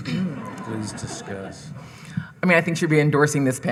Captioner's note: audience laughing